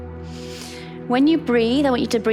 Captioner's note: inhales